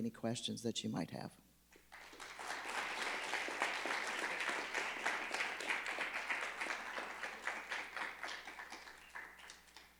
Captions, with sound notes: any questions that you might have. (crowd clapping)